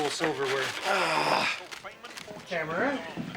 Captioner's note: grunts